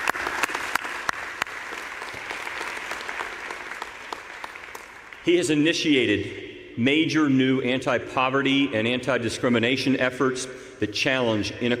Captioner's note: applause